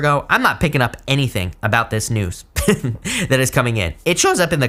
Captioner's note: chuckles